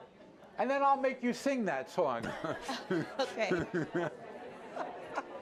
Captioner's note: laughs